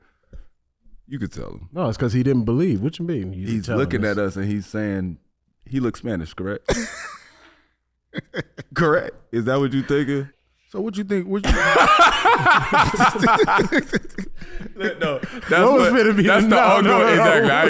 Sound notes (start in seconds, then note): 6.7 HaHa laughs; 11.4 laughs